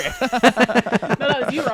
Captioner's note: laughing